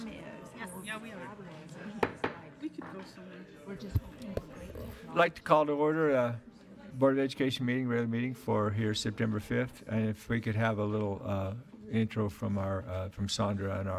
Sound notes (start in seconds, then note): 2.5 gavel bangs